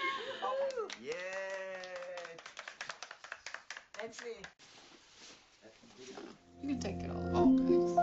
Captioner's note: cheering and Applause